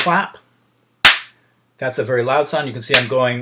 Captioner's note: clap